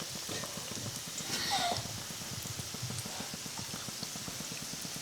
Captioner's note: oil sizzling